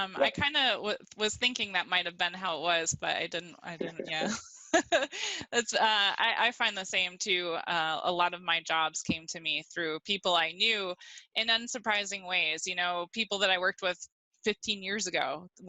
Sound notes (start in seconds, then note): 3.8 laughs